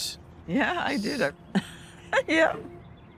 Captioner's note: laughs